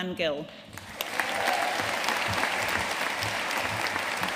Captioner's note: audience applauding